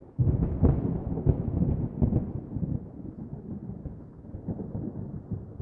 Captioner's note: thunder